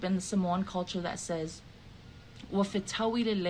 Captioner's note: speaking in the Samoan language